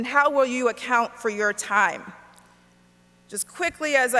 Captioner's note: none